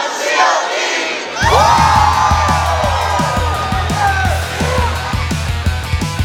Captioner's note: cheers